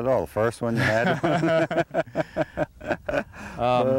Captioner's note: laughter